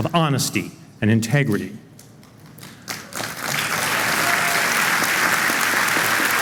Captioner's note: applause